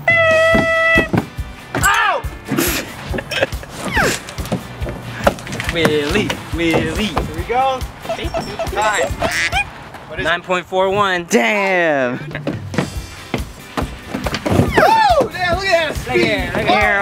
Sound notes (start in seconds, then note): 1.7 yells; 5.6 chanting